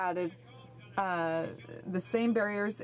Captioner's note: speaking French